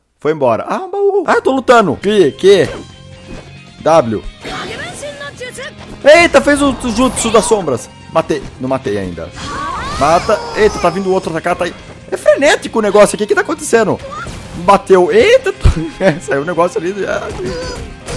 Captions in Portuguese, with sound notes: Foi embora, aaa um baú *-* Aa to lutando... aqui.. que ? ''w'' *som do jogo* Etáa fez o jutso das sombras ! Matei.. não matei ainda Mata ! Eita ta vindo outro ataca ele..... é frenético o negócio aqui O que que ta acontecendo ? Bateu, eitaa *risos* Saiu um negócio ali ''aauhg''